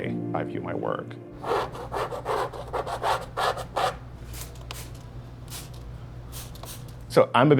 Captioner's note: scratching